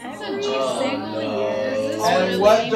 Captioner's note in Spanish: Clase gime